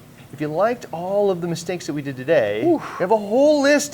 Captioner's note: sighs